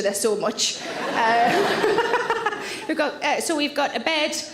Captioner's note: audience laughs; Sarah laughs